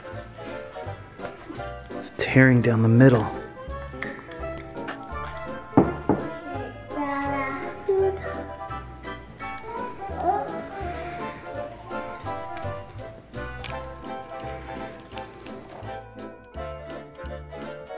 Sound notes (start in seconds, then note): 5.7 loud knocks; 9.8 cheerful music